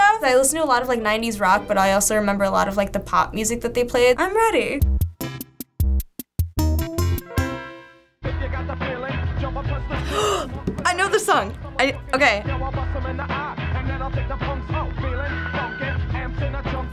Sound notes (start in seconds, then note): 4.7 quirky interlude; 9.9 gasping